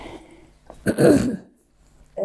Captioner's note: clears throat